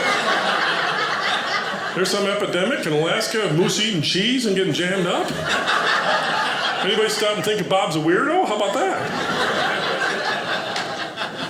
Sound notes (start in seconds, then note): 0.0 audience laughing; 4.8 audience laughing